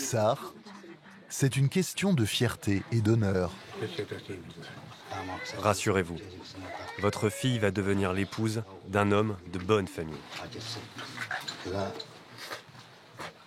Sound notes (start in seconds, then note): 3.6 foreign spoken audio